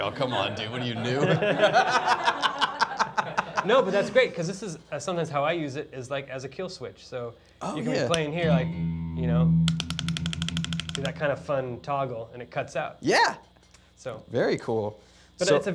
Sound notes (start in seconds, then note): 0.0 laughs; 2.5 laughs; 9.6 guitar switch clicking